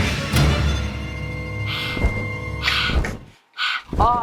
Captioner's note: dark music continues; breathing heavily